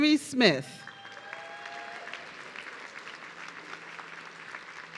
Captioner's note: audience cheering